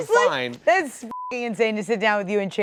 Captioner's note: beep